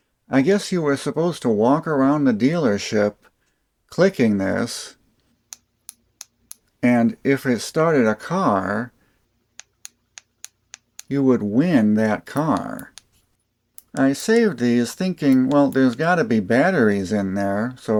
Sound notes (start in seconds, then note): 6.4 clicking sounds; 10.1 clicking sounds